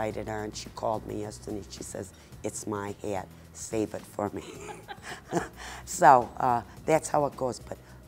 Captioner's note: laughing